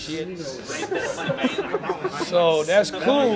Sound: people laughing

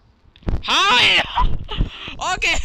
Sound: laughs

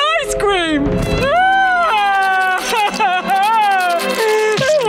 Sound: crying

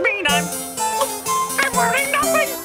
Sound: Emperor gulps

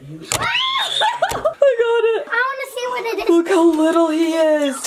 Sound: all screaming

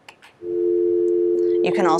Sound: telephone tone hums

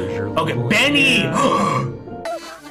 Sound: gasp

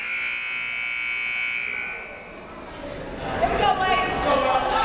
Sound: buzzer goes off

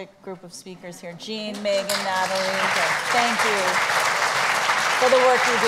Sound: applauds

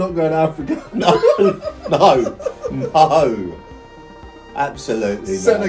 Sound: laughing

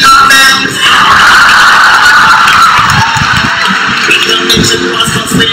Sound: Thank you PM Lee! Cheering sound effect

